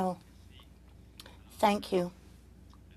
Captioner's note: speaking French